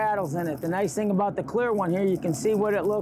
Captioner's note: bait rattling